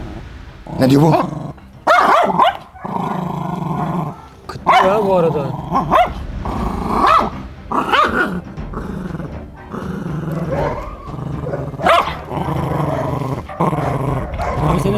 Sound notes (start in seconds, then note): 5.8 barking sounds and tension music; 8.8 growling sound and tension music